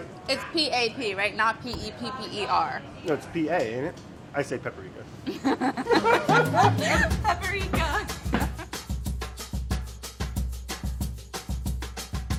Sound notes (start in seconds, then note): 5.4 laughing; 10.0 energetic music